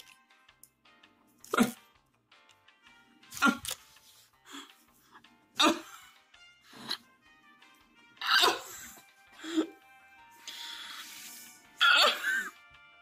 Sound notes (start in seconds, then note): 5.6 on verge of tears; 8.2 crying; 11.8 groans and crying